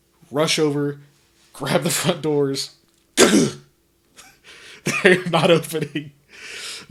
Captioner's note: laughing